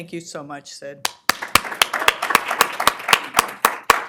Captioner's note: applause